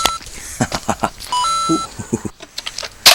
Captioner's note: coin sound effect